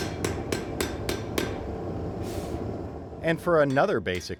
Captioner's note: pounding